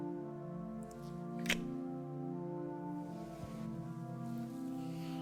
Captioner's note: lips smacking